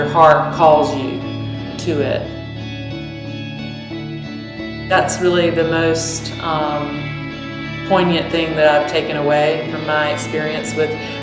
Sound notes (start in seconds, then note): none